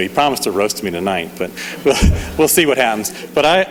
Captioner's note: laughs